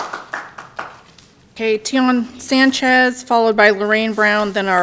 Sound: applause

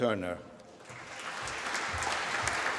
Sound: applause

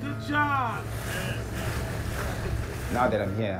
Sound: water rushing

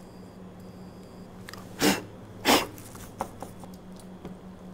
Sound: blowing~

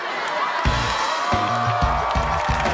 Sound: cheering

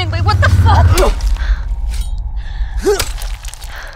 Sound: shovel thuds

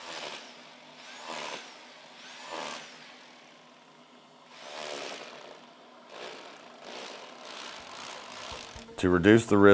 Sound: tool Noise

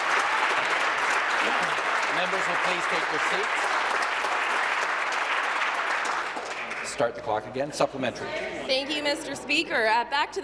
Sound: applause

